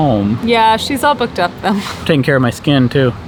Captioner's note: chuckles